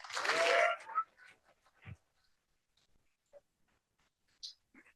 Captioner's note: cheering